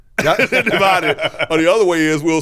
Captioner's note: laughs